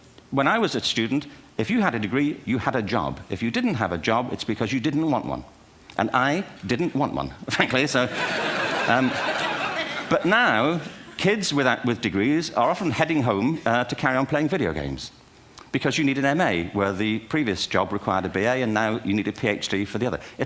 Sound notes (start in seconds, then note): 8.0 laughter